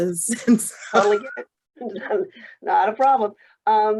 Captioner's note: laughing